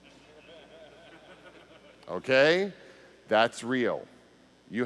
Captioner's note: laughter